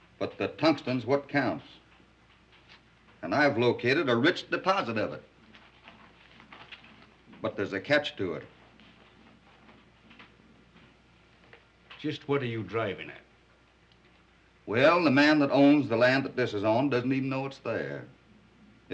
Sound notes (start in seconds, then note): none